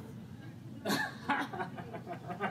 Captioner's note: laughter